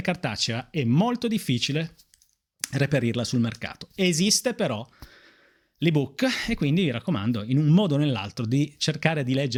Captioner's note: Italian